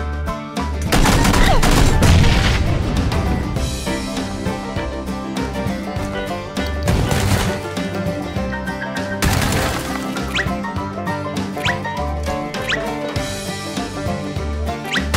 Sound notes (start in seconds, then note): 0.8 shots; 0.9 country Music; 1.8 Explosion by Frag; 2.9 country Music; 6.9 shooting; 7.6 country Music; 9.2 shots; 9.7 country Music